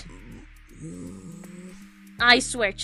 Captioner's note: more Grumbling